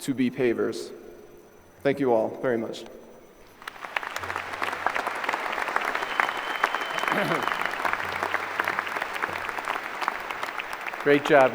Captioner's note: applause